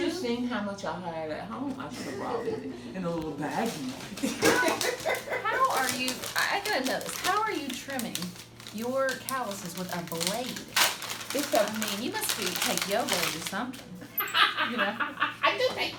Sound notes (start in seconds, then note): 4.2 laughing; 14.1 woman laughing